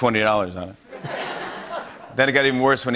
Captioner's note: laughter